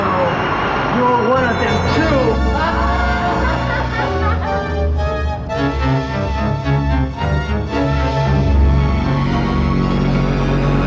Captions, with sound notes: - Oh no, you're one of them too. (laughs) (ominous music)